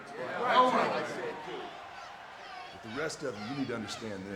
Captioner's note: group chattering